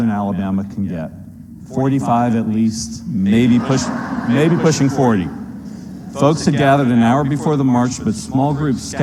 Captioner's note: laughter